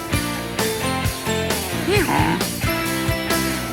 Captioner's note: braying